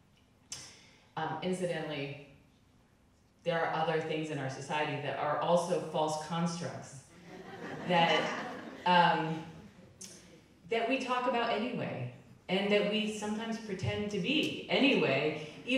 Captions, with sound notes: Incidentally, there are other things in our society that are also false constructs, (crowd laughing) that we talk about anyway, and that we sometimes pretend to be anyway,